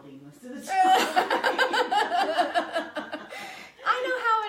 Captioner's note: laughing